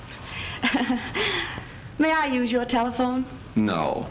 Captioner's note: laughs